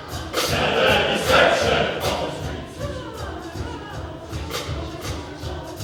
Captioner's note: chorus speaking